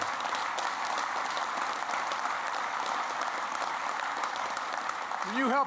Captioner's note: applause